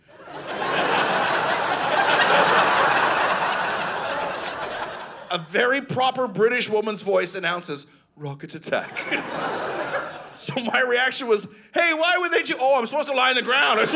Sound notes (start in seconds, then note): 0.0 audience laughing; 8.8 audience laughing